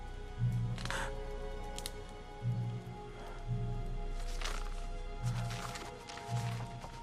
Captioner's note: Home gasps; twigs cracking